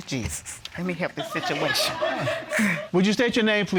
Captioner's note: audience laughing